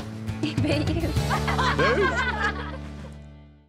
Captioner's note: laughter